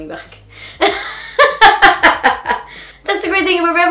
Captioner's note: laughs